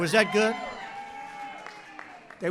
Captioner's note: applause